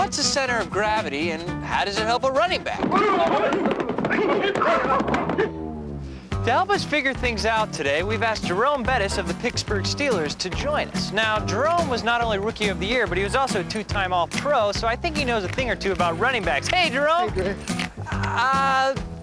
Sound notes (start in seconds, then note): 2.8 football players gruntin